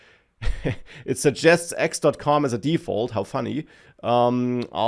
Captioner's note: laughs